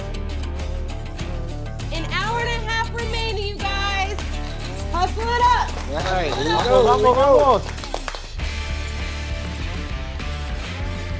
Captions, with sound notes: - An hour and a half remaining, you guys. Hustle it up. (judges clapping) (exciting music)